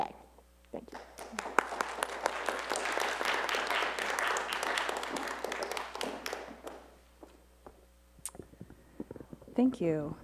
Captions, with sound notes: Thank you. [ Applause ] >> Thank you.